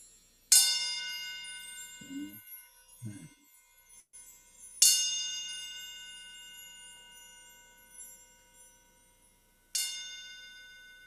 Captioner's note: singing bowl chime